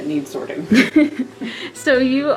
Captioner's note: laughing